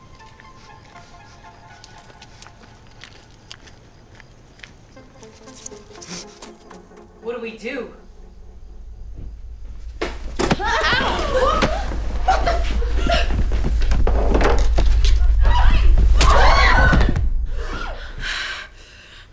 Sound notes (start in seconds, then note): 0.0 suspenseful music; 10.7 woman yelling; 15.4 women screaming